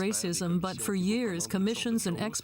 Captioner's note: speaking French